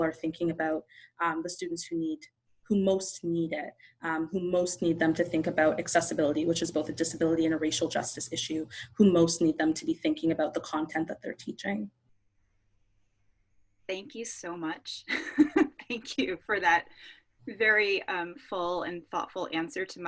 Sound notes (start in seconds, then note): 15.0 laughs